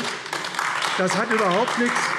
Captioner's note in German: Beifall AfD